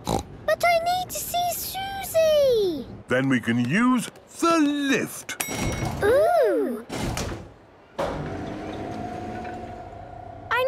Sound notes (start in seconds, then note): 5.4 lift pings; 8.0 lift moving